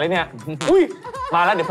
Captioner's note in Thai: ผายลม